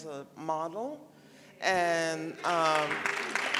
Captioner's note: applause